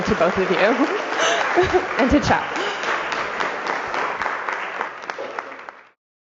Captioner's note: applause